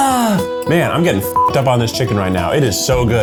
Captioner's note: beep